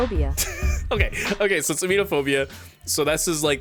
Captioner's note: laughs